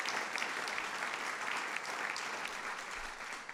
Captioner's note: applause